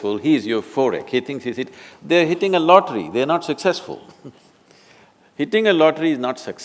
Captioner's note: laughs